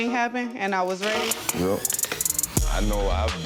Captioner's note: tape rasping